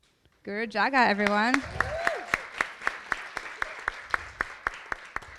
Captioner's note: audience applauding